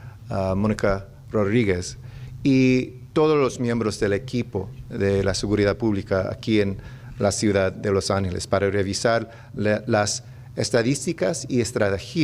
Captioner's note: remarks in spanish; speaking spanish